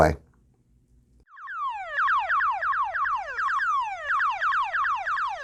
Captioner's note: retro chirping